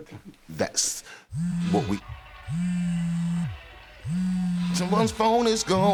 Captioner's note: phone buzzes